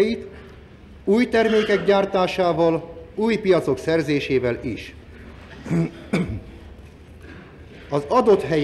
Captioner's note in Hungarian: Köhög